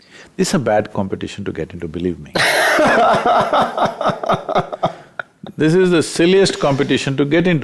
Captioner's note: laughs